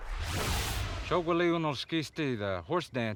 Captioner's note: speaking Cherokee